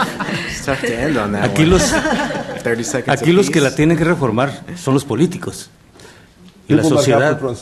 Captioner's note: laughter